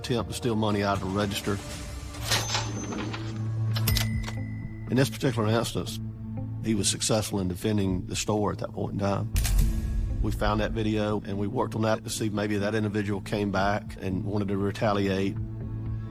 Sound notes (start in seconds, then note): 2.1 register r dings